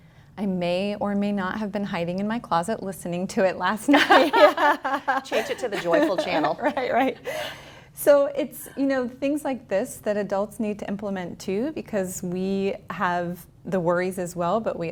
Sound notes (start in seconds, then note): 3.9 both laughs